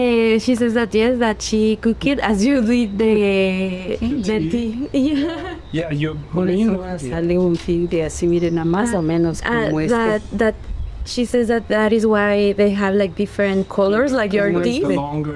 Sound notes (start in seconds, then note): 5.7 speaking spanish